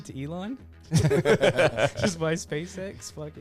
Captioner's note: laughs